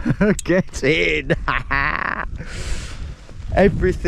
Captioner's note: chuckles